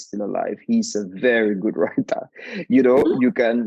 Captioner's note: chuckling